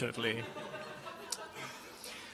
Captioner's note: laughter